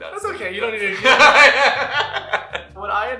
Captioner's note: laughter